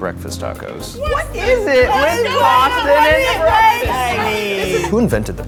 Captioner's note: overlapping chattering